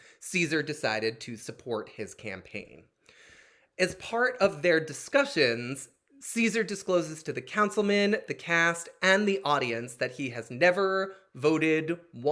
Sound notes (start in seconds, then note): none